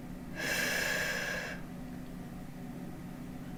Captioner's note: woman exhales